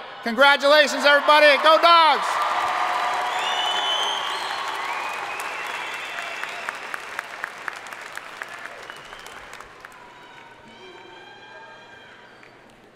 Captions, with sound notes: congratulations everybody, go Dogs! (audience cheering and applauding)